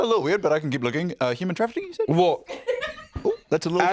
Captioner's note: laughs